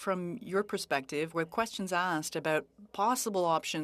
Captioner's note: speaking French